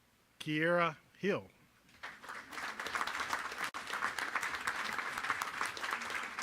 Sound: applause

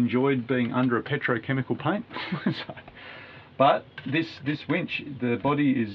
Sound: laughing

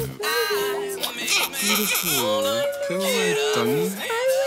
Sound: baby crying

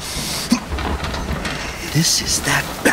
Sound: grunting

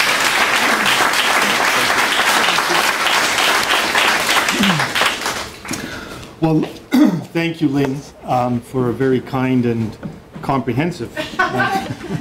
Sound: clapping

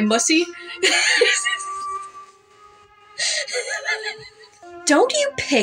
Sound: chuckle; laugh

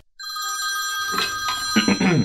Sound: phone Rings

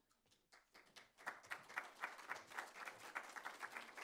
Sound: applause

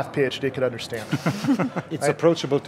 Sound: laughing

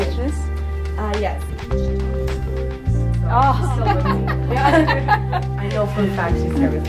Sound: background Conversation

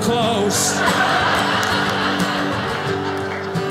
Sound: audience laughing

